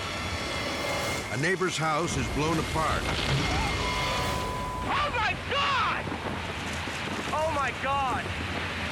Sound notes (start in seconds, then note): 0.0 dramatic music; 0.0 tornado thundering; 2.2 house exploding